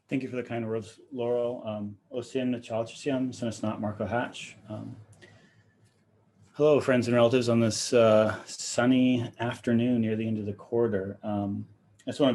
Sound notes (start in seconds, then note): 2.3 speaking in foreign language